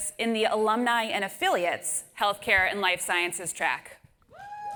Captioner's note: applause